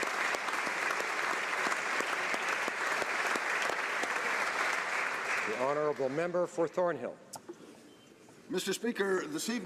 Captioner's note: applause